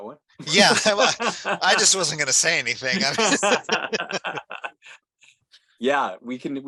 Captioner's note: laughter